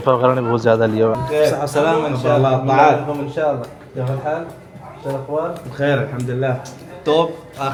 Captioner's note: Arabic